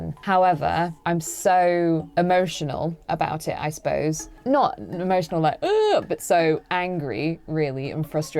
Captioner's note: cries